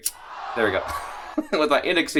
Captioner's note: chuckles